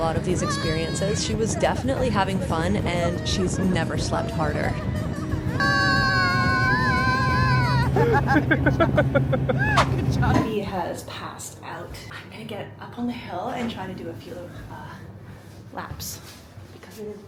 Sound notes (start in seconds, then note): 5.4 screaming; 9.0 laughing